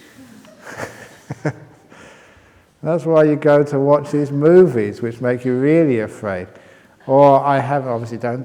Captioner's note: chuckle